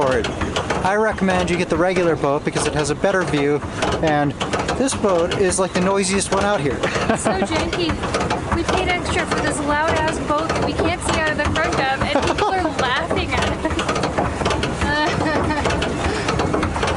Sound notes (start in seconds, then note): 6.8 laughs; 14.8 mocking and laughter continues